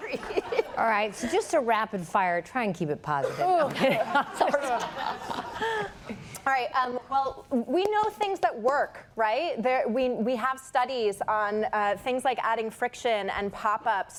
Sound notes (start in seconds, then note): 3.2 laughter